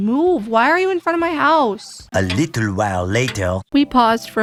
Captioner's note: french accented narrator voice